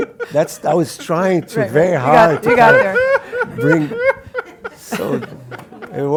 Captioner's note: laugh